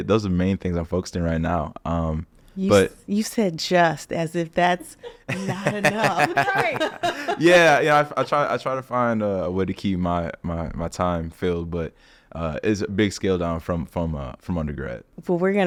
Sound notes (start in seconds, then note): 4.9 group laughing